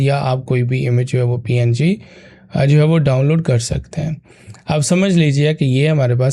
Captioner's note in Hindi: गला साफ़ करने की आवाज़